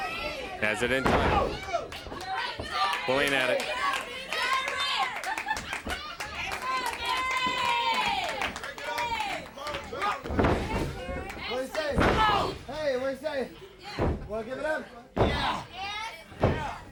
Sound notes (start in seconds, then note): 0.0 crowd chatter; 1.4 crowd chatter